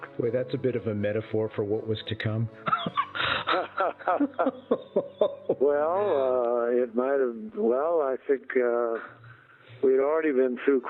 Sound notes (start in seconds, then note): 2.6 both laughing